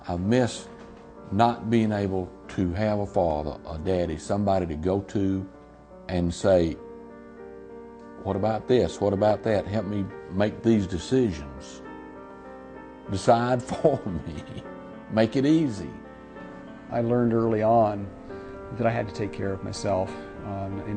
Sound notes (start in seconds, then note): 13.6 laughing